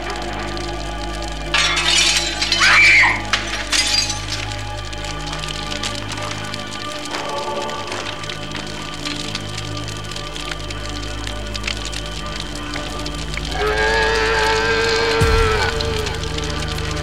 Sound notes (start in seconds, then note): 1.5 breaking glass; 2.5 scream; 13.5 roar